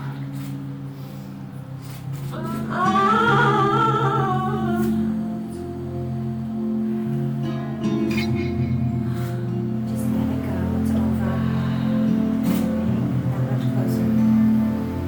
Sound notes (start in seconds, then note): 0.6 soft music; 2.4 moaning